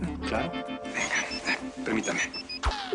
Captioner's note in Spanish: Suena celular